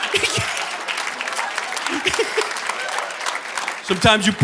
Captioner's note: audience laughing; audience applauding; laughs